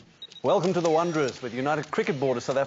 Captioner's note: clicking